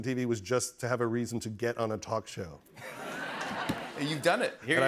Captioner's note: laughter